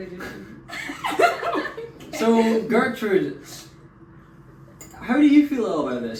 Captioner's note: lots of laughter